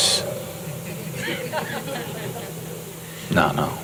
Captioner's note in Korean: 웃음